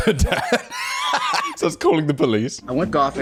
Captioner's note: laughing